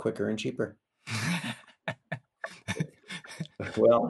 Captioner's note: laughs